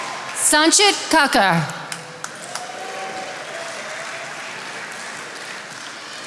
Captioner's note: attendees applauding